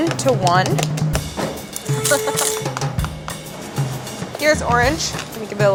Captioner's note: laughing